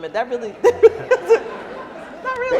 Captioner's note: laughing